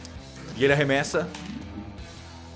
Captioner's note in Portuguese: sons de dado